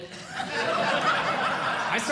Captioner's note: audience Laughing